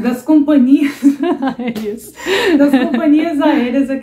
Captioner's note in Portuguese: risos